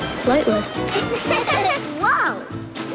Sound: laughing

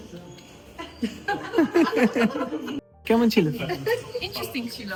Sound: loud laughter

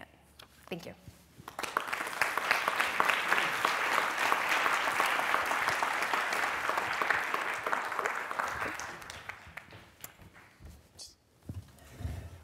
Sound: applause

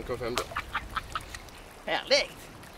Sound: laughing

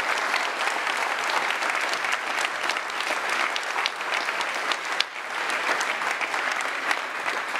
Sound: cheering and applauding continues

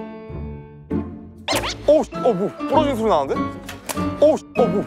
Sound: broken sound

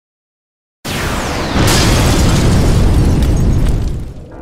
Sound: car explodes

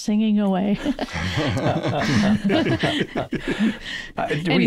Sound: laughter

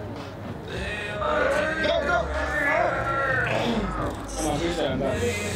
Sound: men grunting

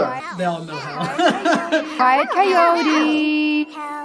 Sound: laughs

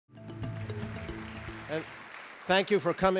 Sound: applause

